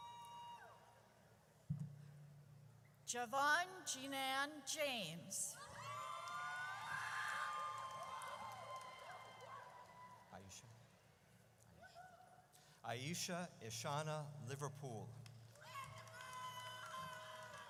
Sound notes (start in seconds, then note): 5.6 audience cheers; 15.6 audience cheers